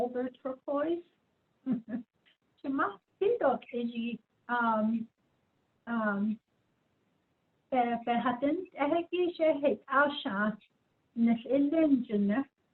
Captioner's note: speaking in Diné